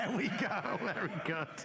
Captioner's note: laughter